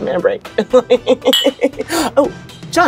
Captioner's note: laughing